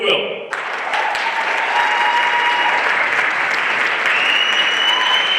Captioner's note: everyone applauding